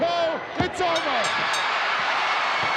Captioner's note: bell dinging; crowd cheering